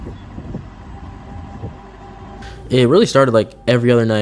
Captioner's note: light Wind